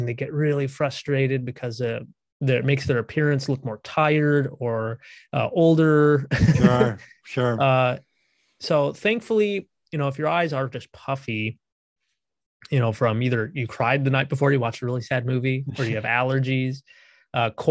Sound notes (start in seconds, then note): 6.4 laughs